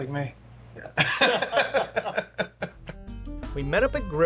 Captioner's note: everyone laughing